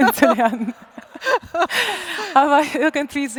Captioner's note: laughs